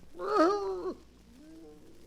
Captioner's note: groaning